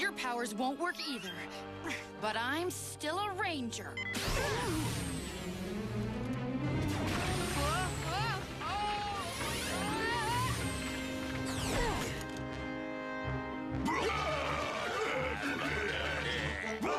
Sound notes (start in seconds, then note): 13.8 grunting